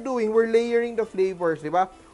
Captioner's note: sizzle